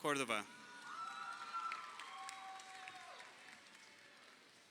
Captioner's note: crowd cheering